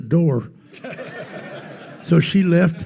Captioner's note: attendees laughing